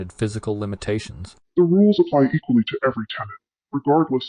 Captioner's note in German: verzerrt